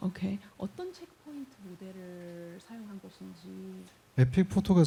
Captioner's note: speaking korean